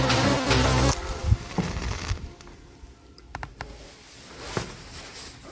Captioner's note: buzzing; portal sound